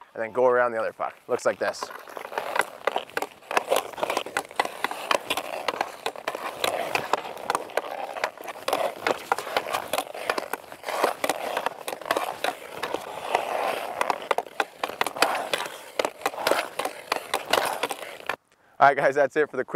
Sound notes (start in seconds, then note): 2.5 ice crunching; 3.4 puck clicking